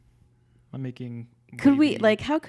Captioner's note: murmurs